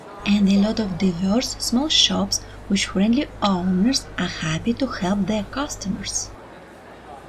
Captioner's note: street noise